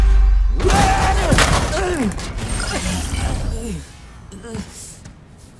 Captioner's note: both groaning; Amato groans